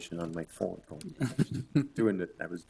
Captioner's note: laughs